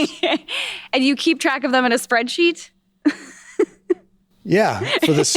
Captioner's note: laughs